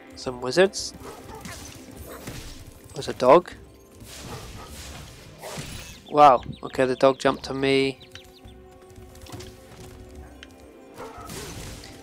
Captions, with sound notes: Some wizards. There's a dog. (dog barks) Wow, okay, the dog jumped to me.